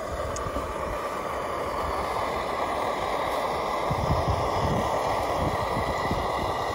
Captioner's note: sound of the gas stove